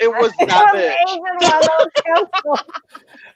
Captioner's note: laughing